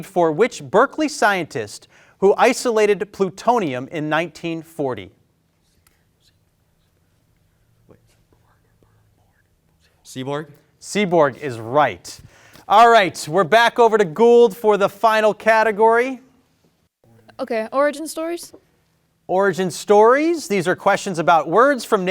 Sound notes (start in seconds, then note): 5.9 group whispering